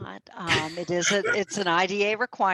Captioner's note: laughs